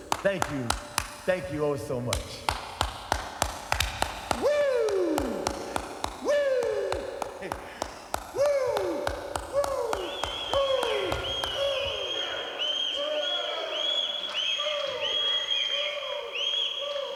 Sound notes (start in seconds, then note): 2.8 claps; 10.2 Curt whistles; 14.4 Curt whistles